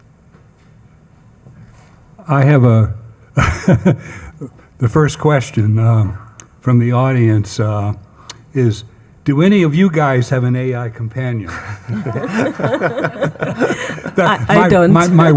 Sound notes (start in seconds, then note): 3.4 laughing; 11.4 attendees laughing